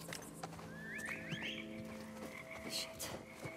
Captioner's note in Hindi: सीटियों की आवाज़